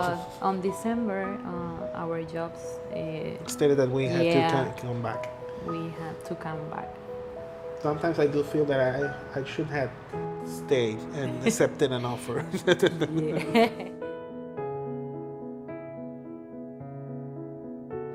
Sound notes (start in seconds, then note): 12.3 laughter; 14.7 classical piano music